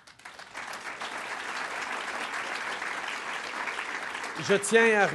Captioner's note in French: Applaudissements